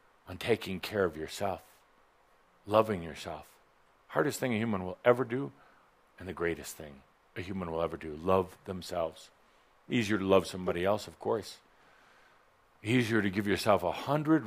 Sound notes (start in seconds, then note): none